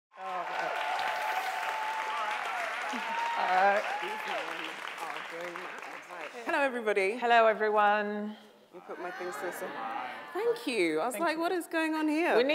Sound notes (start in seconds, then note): 0.1 audience applause; 8.8 audience mumbles greeting